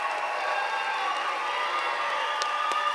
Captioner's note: applause